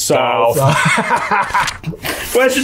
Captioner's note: laughs